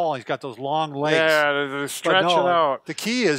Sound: murmurs

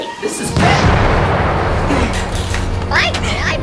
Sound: explosion

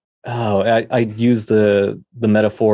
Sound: none

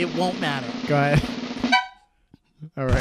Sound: drum roll; tiny horn sound

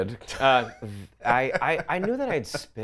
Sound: laughs

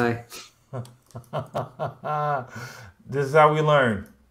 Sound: laughs

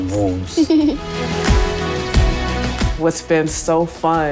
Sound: giggles

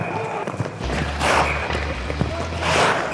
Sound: whistle; whistle

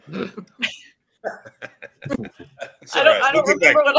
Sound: laughs

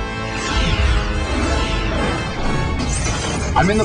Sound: explosion

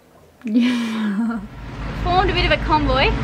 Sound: laughing

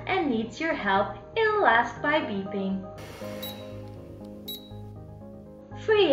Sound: beeping sound

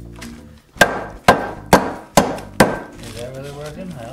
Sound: banging

